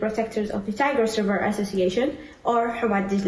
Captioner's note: faintly speaking